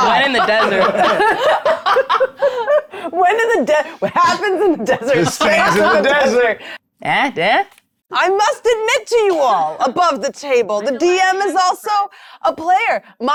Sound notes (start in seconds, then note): 0.0 players laughing